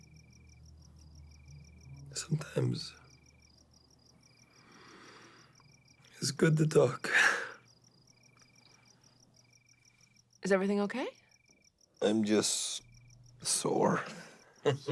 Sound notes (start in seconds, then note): 7.9 Radovan exhales; 14.6 Radovan chuckles